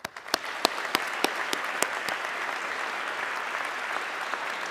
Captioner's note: audience clapping